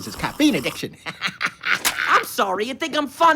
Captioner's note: laughing